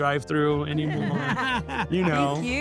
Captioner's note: everyone laughs